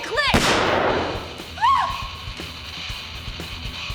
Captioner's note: gun firing